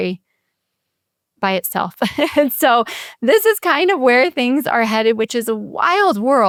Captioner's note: laughs